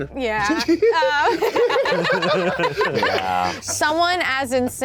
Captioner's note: laughs